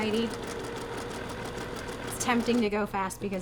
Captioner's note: sewing machine churning